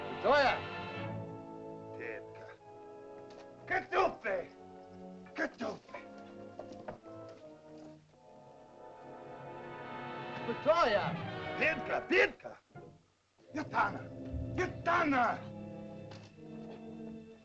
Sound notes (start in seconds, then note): 0.1 speaking in caveman language; 6.8 soft dramatic music; 10.6 speaking in caveman language; 15.6 soft dramatic music